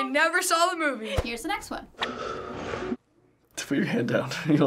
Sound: heavy breathing

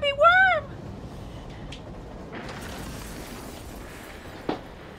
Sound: crashing sound

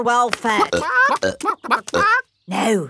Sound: clucking

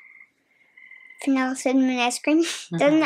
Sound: chuckles

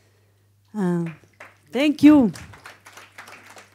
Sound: audience clapping

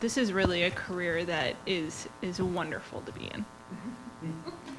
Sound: laughs

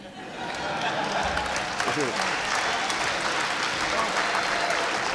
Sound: laughter and applause

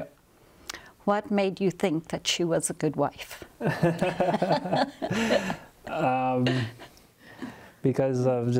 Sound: laughter

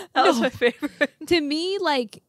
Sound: laughs

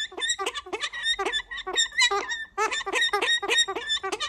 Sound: bird squawking

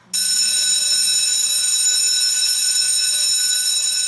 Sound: bell ringing

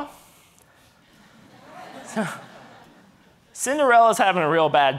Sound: audience laughing

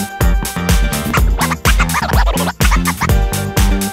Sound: record scratching; disco music

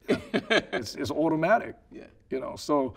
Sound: laughing

